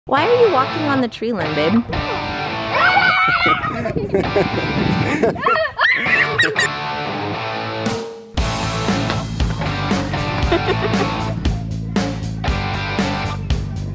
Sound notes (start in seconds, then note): 3.0 laughs and screams; 7.9 electronic music